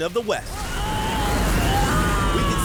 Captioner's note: screaming